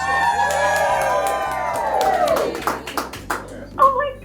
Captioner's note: cheering